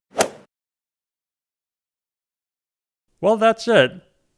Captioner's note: golf swing sound effect